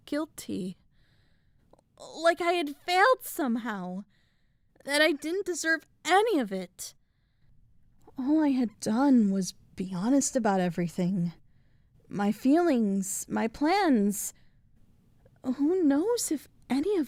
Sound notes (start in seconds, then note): none